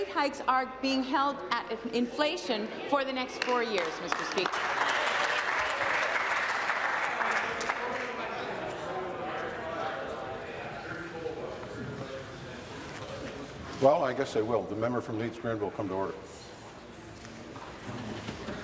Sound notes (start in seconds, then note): 7.8 applause; 14.4 conversation din